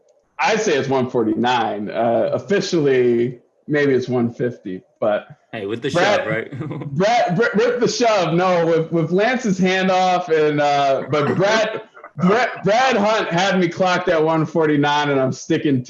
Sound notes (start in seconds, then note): 6.5 laughter